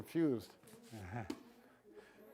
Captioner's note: laughs